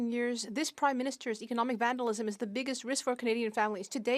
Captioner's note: speaking French